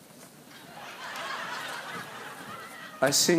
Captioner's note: laughter